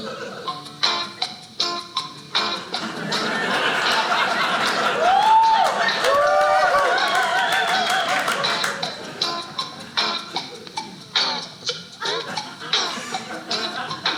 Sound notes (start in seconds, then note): 0.0 lively acoustic guitar music; 4.9 audience cheering; 10.9 tape slows